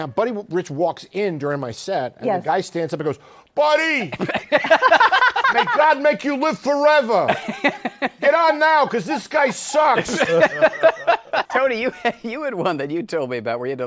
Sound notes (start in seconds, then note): 4.1 laughter; 7.1 laughs; 9.3 laughter